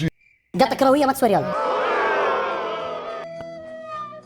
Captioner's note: crowd boos; sad music